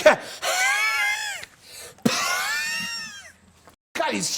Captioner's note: breathing heavily